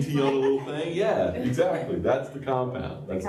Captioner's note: laughter